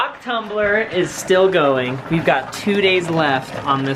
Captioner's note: tumbler humming